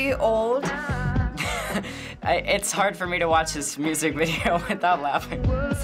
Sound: chuckles

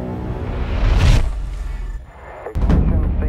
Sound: impact

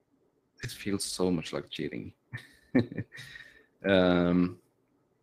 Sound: chuckles

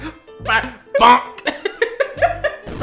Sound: even more laughing

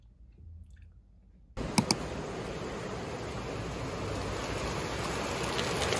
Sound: rain🌧️

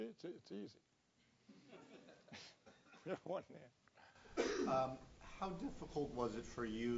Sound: laugh

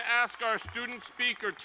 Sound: applause

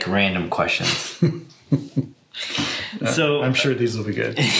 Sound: both chuckle

